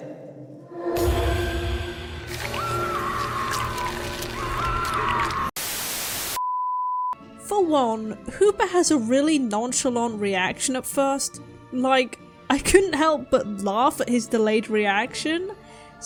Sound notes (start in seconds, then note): 1.0 dramatic noises + screaming; 5.6 static